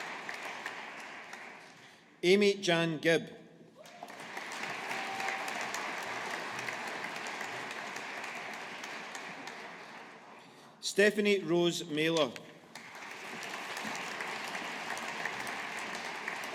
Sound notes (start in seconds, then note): 3.8 audience applauding; 12.7 audience applauding